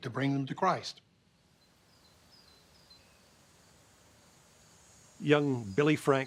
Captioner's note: birds chirping